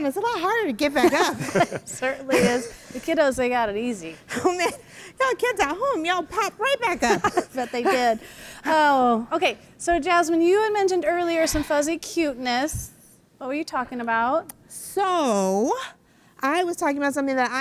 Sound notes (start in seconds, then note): 7.0 laughs